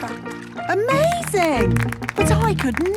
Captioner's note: clapping